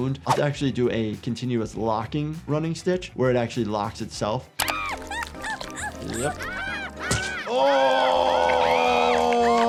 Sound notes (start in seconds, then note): 4.8 Sniffles screaming